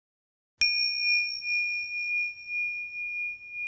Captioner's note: bell dings